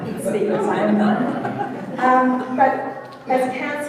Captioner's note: audience laughing